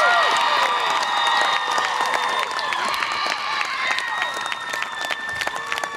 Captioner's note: audience applause and cheer